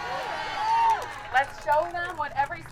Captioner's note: audience cheers